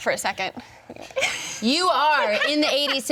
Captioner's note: laughs